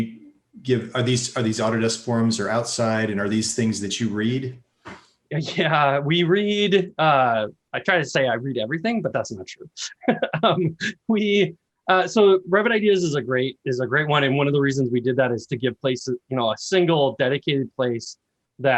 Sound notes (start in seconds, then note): 9.7 laughs